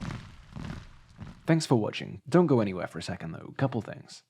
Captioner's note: marching sounds